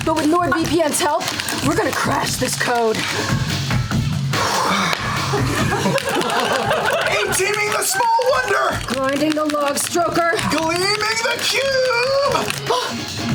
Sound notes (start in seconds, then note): 4.3 exhaling; 5.2 laughter